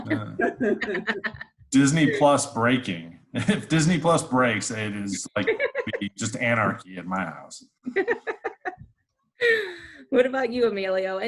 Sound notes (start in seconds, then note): 0.0 laugh; 5.3 laughs; 7.9 laughs